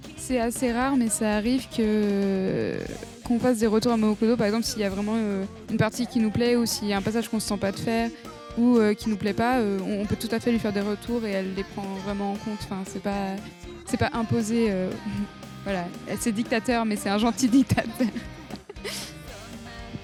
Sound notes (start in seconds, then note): 17.4 laugh